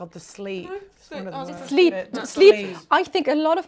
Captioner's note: chattering